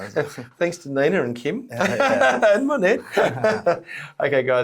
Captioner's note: laughs